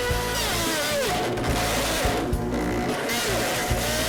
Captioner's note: blender whizzing; blender grinds